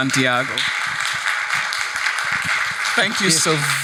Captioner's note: attendees applauding